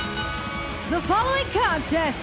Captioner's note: bell ringing